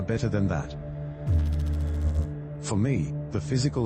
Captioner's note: electrical noise